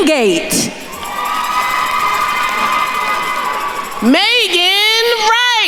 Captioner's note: attendees cheering